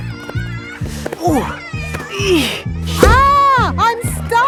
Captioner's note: grunting